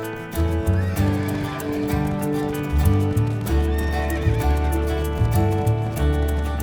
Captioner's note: gentle music; hooves clopping; horses whinnying